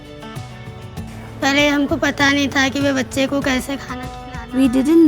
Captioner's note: speaking in foreign language